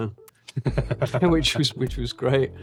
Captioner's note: laughing